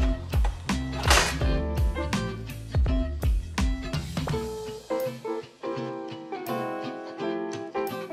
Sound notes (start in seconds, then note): 0.8 object clicking